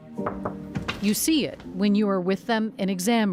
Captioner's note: knocking on door